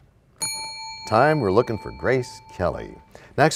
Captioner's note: bell rings, time expires